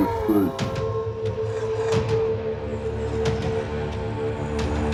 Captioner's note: clones snarling